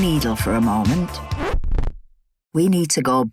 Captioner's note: record scratches